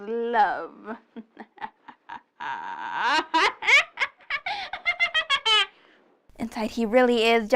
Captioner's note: dramatic laughing